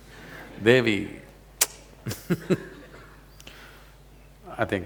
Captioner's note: laughs